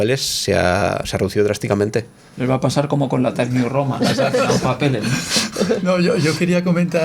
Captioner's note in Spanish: risas